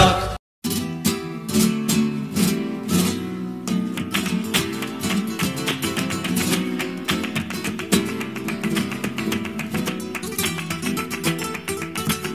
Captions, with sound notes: Wait why not Despacito [Totally not suspicious "clapping"]